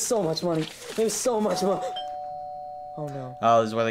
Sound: doorbell rings

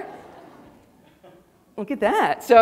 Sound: audience laughing

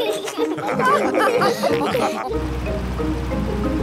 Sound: all laugh

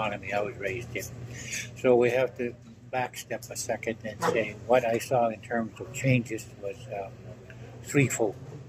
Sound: chair squeaks

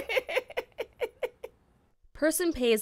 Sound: ^laughter^

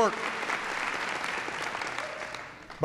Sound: applause

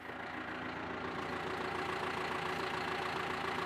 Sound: excavator engine humming

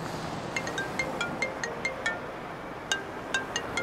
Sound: phone ringing

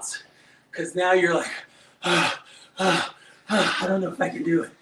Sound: pants

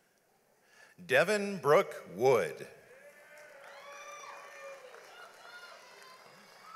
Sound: audience applauds

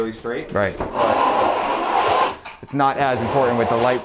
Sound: loud scarping

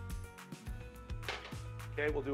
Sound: bowl clinks

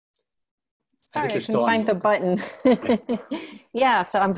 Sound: laughs

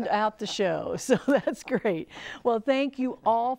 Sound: laughing

